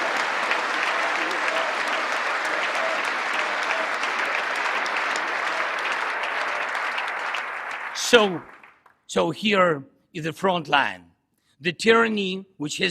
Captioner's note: applause; cheering